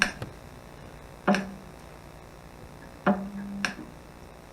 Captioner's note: clicking